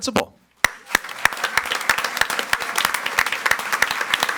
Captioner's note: audience applauds